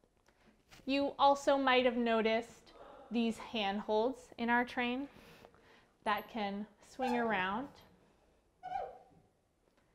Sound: creaking

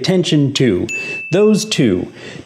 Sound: bell chimes

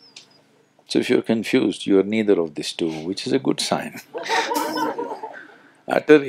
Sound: laughter

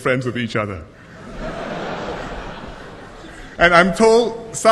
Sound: laughter

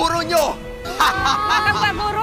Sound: laughs

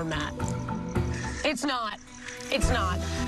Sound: sighs

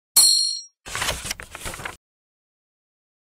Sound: beep; sound of page turning

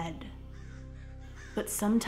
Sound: crow calls

